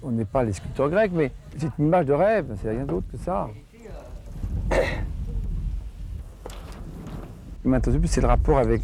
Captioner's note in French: raclement de gorge